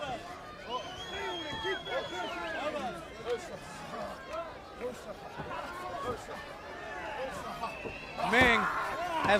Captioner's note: crowd chatter